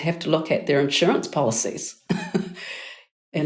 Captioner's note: chuckling